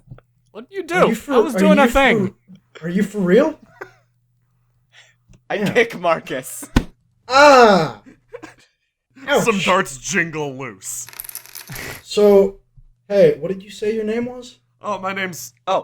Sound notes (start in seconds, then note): 6.8 thud; 11.1 some darts jingle loose; 11.1 jingling